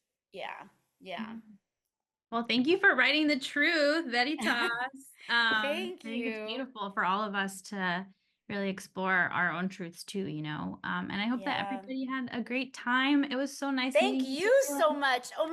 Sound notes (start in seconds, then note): 4.2 speaking in spanish